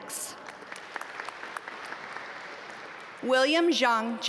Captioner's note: audience applaud